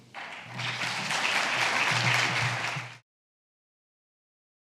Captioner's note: audience clapping